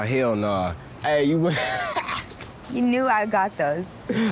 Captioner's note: laughing